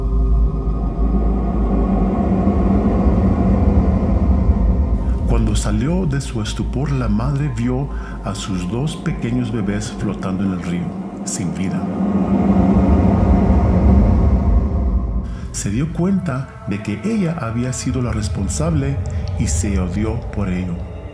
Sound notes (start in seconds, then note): 0.2 spooky soundscape; 11.9 spooky soundscape